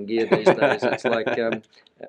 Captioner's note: laughing